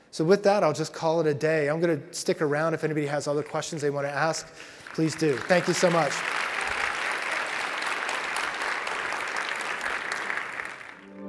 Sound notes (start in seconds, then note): 7.2 audience claps